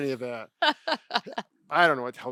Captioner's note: laughing